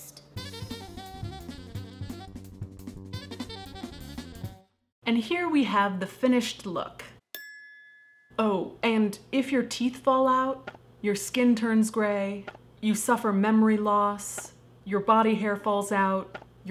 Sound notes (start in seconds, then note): 7.3 ding